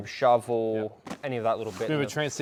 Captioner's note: pat